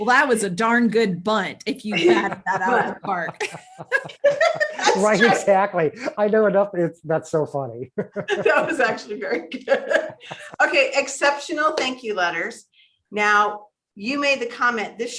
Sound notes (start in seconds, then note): 1.8 all laughing